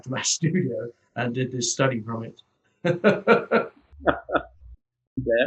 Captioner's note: laughs